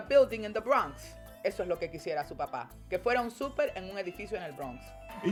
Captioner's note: speaking Spanish; speaking Spanish